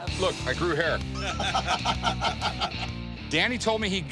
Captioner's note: laughter